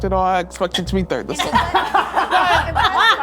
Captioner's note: all laughing